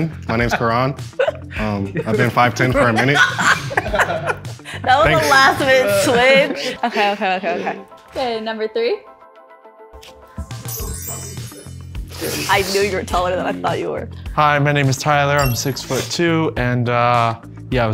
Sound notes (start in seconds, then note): 3.3 laughing